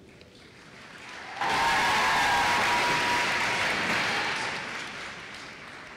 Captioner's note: applause